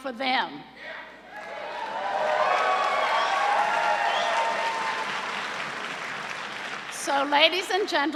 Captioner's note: cheers and applause